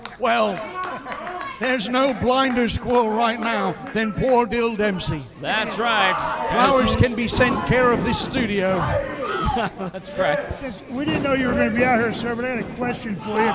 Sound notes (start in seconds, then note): 8.9 laughing; 9.3 audience shouting